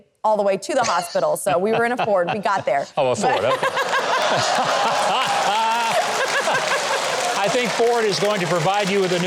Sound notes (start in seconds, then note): 3.2 all laugh